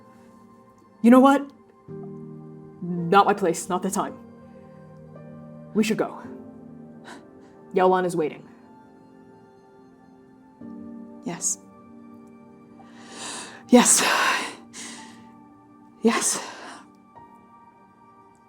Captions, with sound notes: You know what? Not my place. Not the time. We should go. - [sharp exhale] Yaolan is waiting. - [sharp exhale] Yes. [shuddering inhale] Yes. [breathing shakily] Yes.